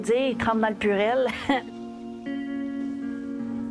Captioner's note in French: petit rire